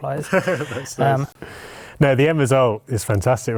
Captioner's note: laughter